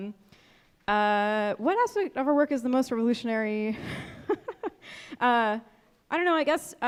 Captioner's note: chuckles